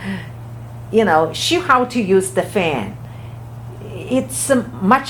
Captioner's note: laughs